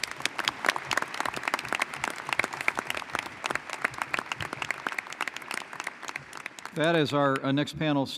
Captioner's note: applause